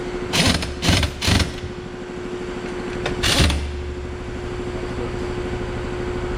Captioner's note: impact wrench and air compressor whirring